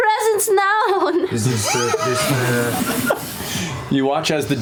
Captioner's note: laughter